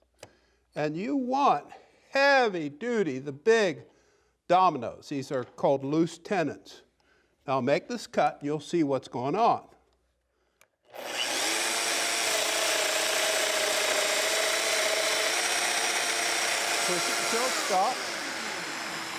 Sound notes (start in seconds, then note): 10.9 cutter whirring